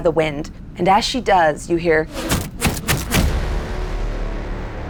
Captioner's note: puffing